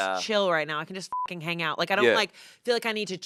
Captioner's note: beep